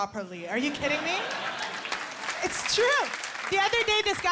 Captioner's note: laughter